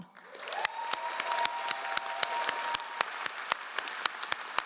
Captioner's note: all applauding